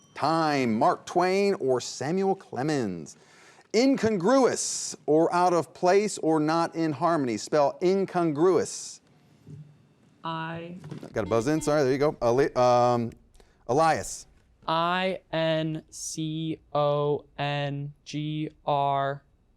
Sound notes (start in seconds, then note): 11.0 beep